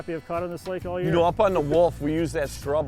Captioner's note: laughs